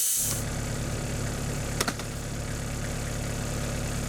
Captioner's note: engine revving